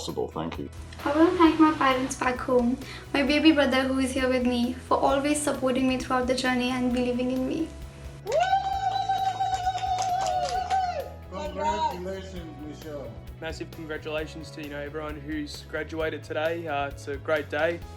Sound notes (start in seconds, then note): 8.2 cheering and clapping